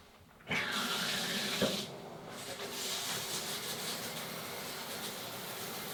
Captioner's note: running water splashes